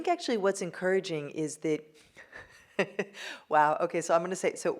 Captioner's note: laughs